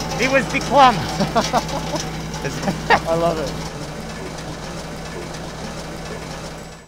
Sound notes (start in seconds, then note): 0.2 laughing